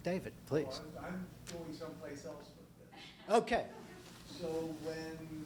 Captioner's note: voiceover